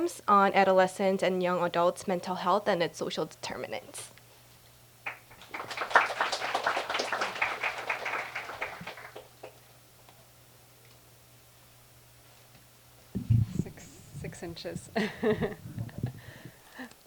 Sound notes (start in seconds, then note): 5.0 applause